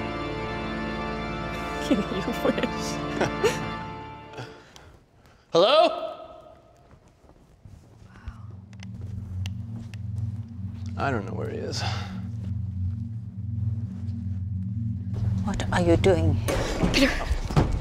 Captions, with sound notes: [ LAUGHS ] YOU WISH. [ CHUCKLES ] HELLO?! I DON'T KNOW WHERE HE IS. WHAT ARE YOU DOING HERE?